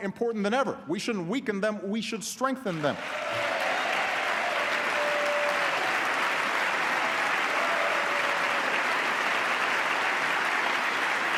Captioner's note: applause